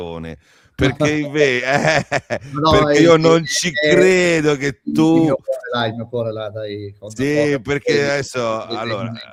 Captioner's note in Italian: risate